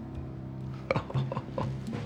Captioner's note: Jonas chuckling